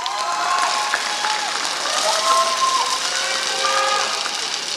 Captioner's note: applause